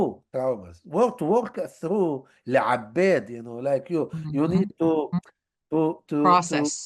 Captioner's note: hebrew